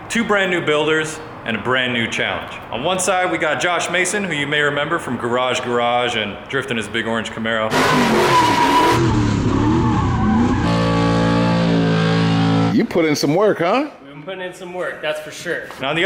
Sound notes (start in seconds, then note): 7.6 tires screeching; 10.2 car engine rumbling